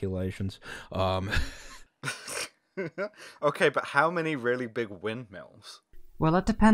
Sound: laughter

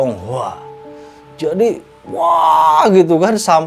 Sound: screaming

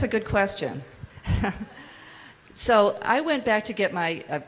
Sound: laughs

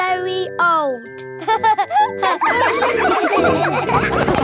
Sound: all laughing

